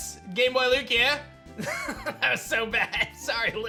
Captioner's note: chuckles